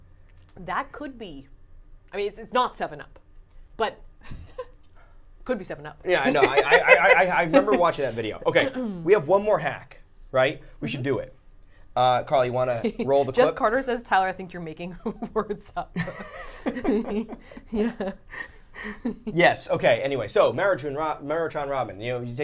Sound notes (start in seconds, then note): 15.9 both laughing